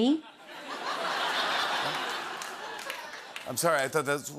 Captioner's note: laughter